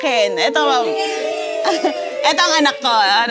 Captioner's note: cheers